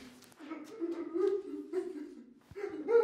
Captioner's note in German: Leises Schluchzen